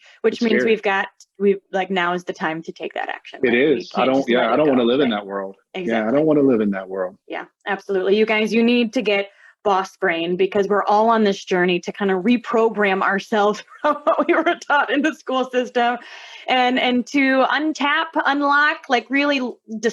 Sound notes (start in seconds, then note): 13.7 laughter